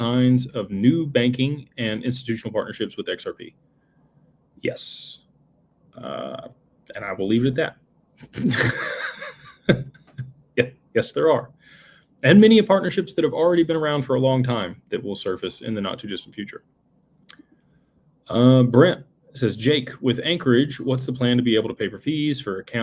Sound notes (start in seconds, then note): 8.2 laughter